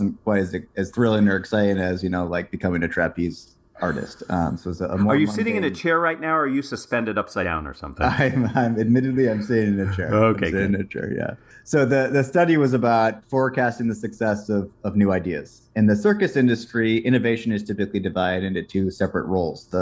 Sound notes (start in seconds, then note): 8.0 laugh